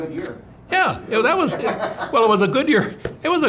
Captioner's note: laughs